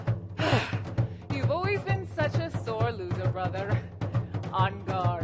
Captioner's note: sighs